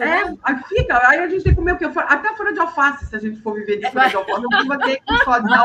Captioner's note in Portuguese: risadas